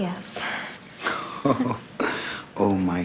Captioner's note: Neil laughs